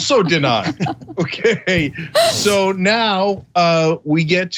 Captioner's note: laugh